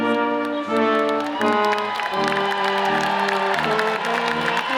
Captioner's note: audience applauds